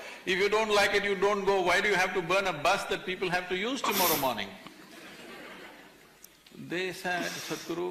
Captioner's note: few laugh